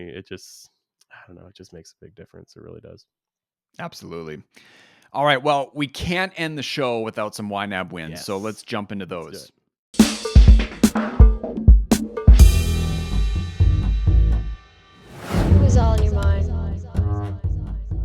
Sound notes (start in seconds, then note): 10.0 upbeat jazz music; 15.0 air whooshing